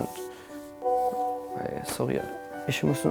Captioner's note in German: Klingelton